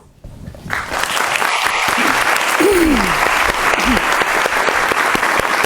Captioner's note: audience applauding